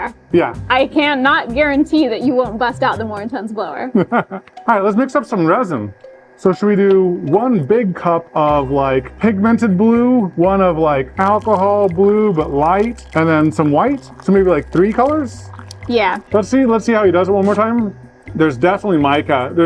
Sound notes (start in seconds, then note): 3.9 laughs